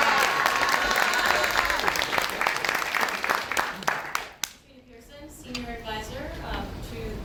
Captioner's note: applause